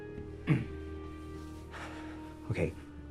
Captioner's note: sighing